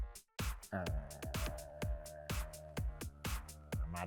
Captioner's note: groans